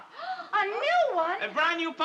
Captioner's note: gasps